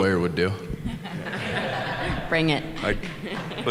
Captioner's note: chuckle